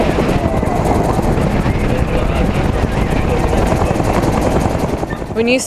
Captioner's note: helicopter blades whirring; people chattering